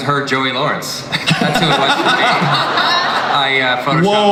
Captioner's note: audience laughs